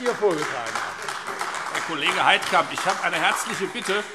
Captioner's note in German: Beifall AfD